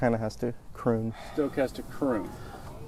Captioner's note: stoke sighs